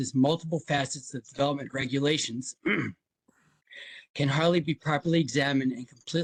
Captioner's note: cough